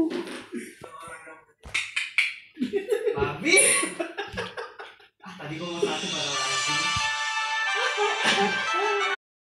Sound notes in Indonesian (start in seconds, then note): 3.4 Giggles